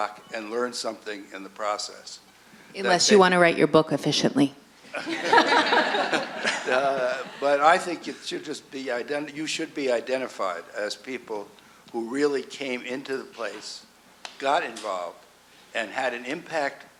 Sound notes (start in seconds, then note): 4.9 laughs; 4.9 audience laughing